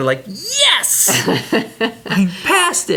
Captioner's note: laughs